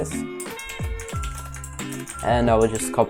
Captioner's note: agressive typing